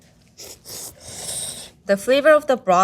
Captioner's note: chefs slurping